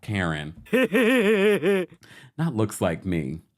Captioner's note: laughs